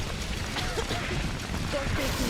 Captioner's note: coughing